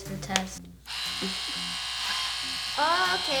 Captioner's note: machine whirs